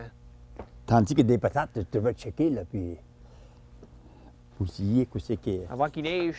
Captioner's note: speaking Acadian French